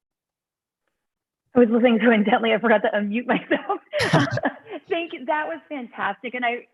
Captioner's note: laughter